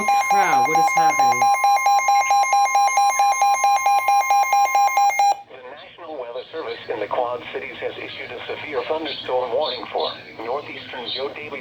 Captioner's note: wr120ez going off